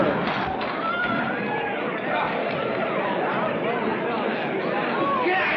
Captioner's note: frantic chattering